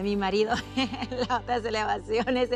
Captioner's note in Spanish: Risas